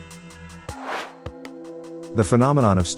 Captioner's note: air swooshes